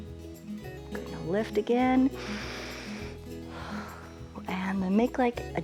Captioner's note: inhales and exhales